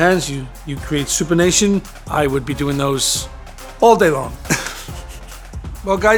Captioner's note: laughs